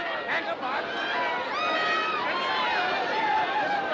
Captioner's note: Gritando, gritando